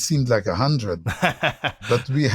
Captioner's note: laughter